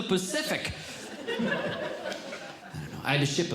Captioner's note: audience Laughing